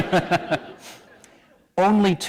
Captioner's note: laughter